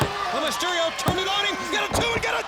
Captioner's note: hand pounding